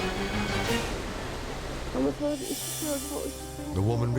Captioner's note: dramatic music; driver speaks in foreign language